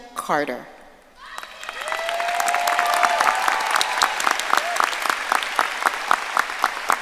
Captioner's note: audience cheering and applauding